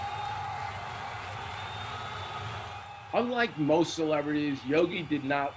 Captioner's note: crowd Cheering